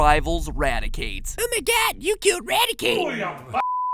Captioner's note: high-pitched voice